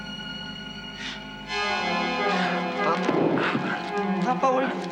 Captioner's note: gasps